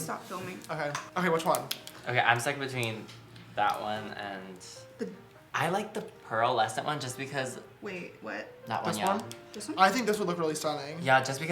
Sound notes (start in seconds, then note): none